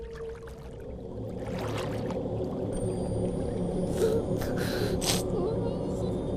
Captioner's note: water bubbling; sobbing